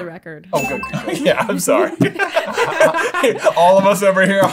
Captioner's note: laughter